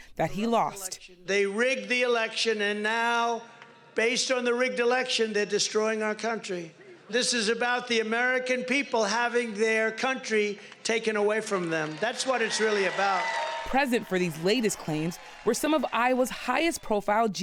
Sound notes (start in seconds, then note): 13.0 cheering and applause